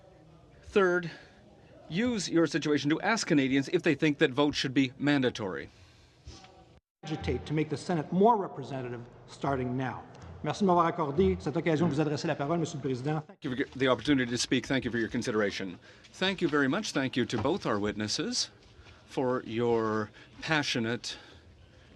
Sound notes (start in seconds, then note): 16.4 speaking French